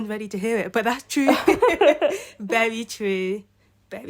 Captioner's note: laughter